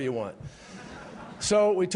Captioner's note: laughter